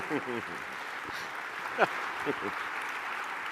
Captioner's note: chuckling